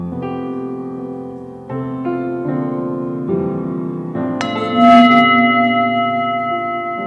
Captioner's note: singing bowl rings